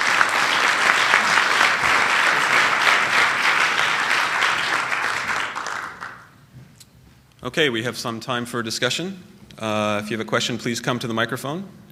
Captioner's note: applause